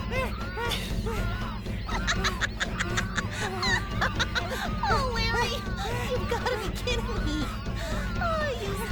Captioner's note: cackling